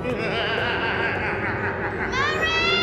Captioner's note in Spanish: risa malvada